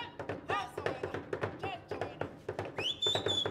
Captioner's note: drum beating; shouting and drum beating; whistling